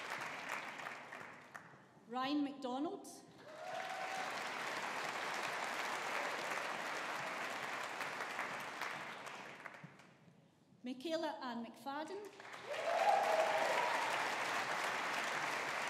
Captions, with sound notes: Ryan McDonald. (AUDIENCE APPLAUDING) Michaela Anne McFadden. (AUDIENCE APPLAUDING)